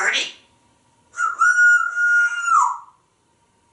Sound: whistling

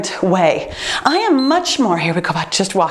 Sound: timer beeps

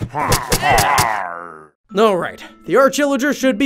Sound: groaning

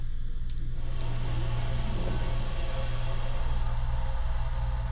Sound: gas flame firing

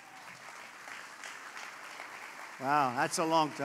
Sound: applause

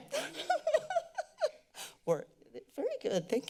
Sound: laughter

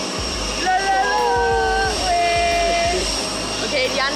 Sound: cheering

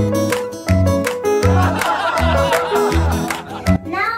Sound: laughter

